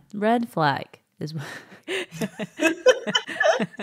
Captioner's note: laughing